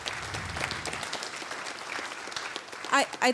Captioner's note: applause